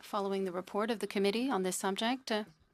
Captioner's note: speaking French